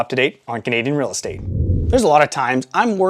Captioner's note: air whooshing